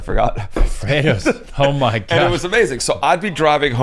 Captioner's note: laughs